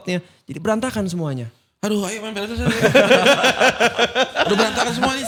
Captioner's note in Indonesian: tertawa